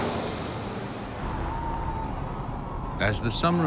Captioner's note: crowd cheering